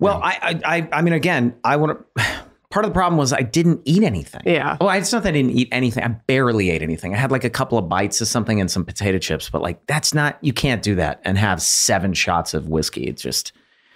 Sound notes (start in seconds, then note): 2.1 Glenn sighs